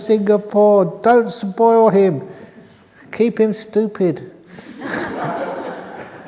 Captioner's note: laughter